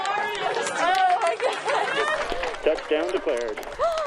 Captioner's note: applauding